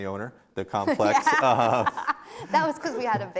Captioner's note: laughs